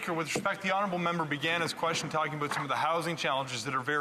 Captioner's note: speaking French